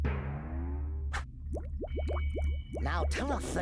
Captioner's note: stomach gurgling